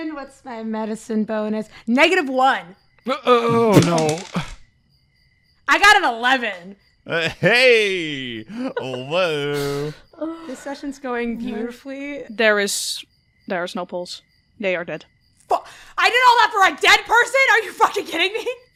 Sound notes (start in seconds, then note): 3.5 dice clacks